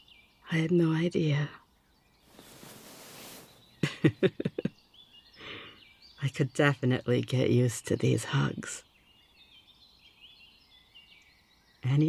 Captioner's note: laughs again